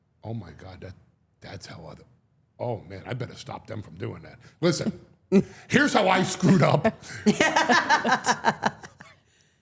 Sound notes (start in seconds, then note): 6.2 laughing